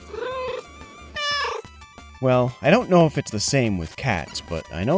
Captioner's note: meow